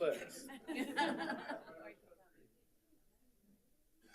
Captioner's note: all laughing